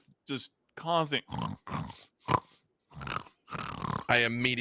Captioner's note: imitates pigs grunting